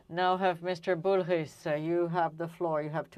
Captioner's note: speaking French